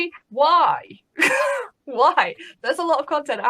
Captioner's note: laughs